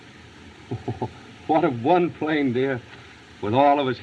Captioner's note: chuckling